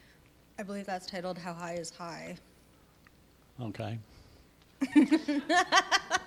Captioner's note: laughter